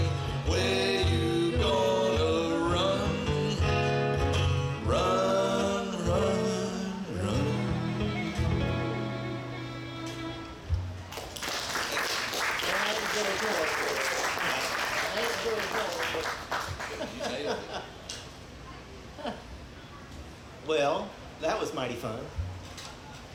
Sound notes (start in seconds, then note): 11.1 audience clapping; 16.8 laughing